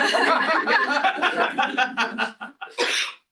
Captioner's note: laughter